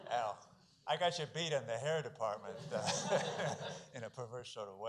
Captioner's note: laughs